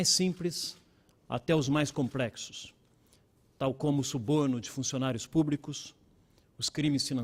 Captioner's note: speaking Portugese